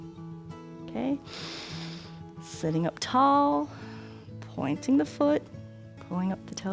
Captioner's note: inhales